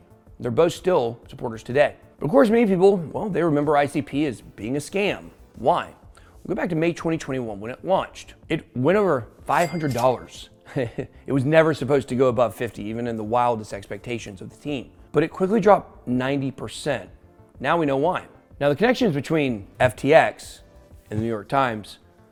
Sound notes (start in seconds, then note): 10.6 chuckles